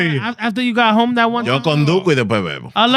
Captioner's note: speaking Spanish